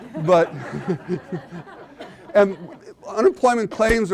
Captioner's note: audience laughing